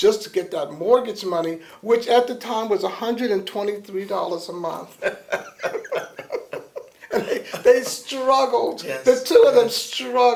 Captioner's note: laughter